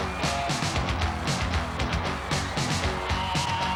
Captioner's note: crowd cheering